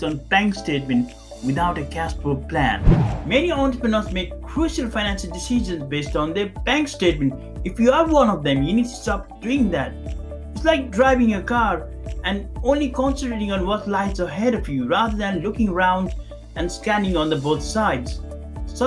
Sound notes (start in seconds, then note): 2.7 air swooshing